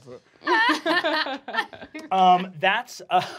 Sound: laughing

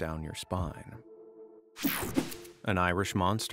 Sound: screen whooshing

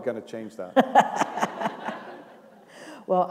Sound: laughter

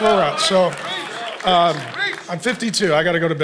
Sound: congregation cheering; congregation applauding

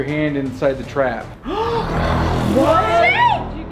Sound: gasps

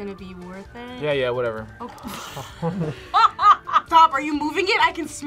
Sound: laughs

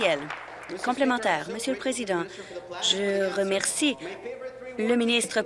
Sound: applause

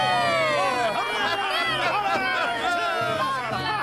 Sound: snickering

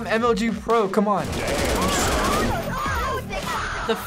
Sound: voices screaming

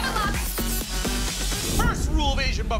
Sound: beatboxing continues

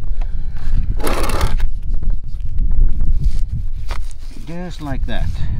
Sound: object scrapes along ground

